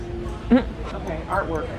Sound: snicker

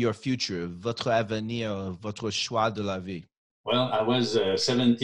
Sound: speaking in French

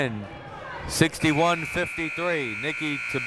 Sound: final buzzer sounding

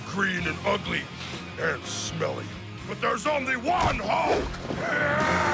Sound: sniffs

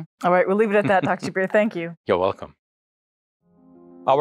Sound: chuckles

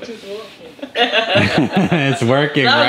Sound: laughing

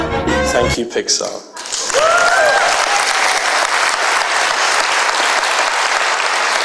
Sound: applause

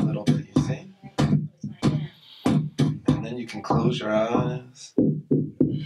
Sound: Mr. Root breathing deeply

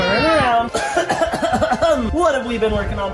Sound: coughing dramatically

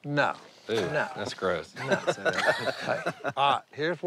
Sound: laughter

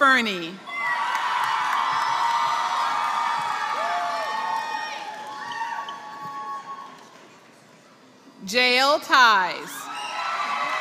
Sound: applause; applause

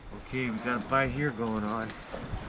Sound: jangling

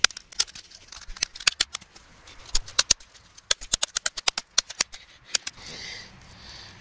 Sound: more intense Hammering

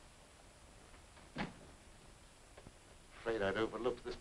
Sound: door latches

